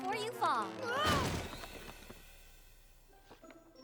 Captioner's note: crash!